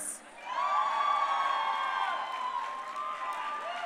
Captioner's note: crowd cheering